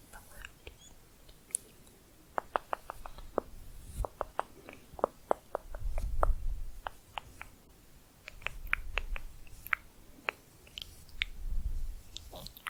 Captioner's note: tongue clicking and bubbling, varied pitch